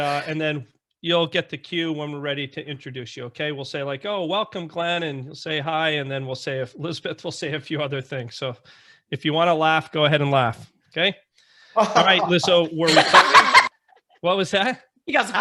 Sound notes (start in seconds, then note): 11.8 laughing